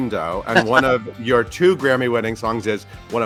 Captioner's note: laughs